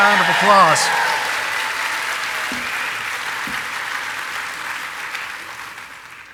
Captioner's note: audience applauding and cheering